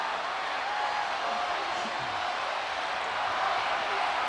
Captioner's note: crowd cheers